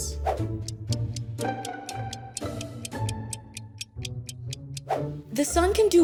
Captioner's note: gentle music; screen whooshing